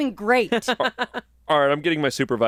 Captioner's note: laughs